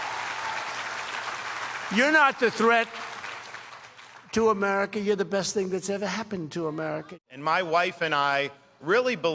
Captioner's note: applause